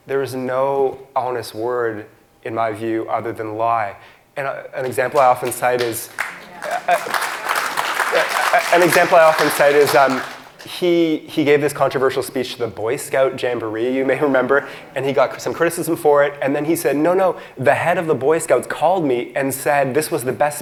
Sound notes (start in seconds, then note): 4.8 audience claps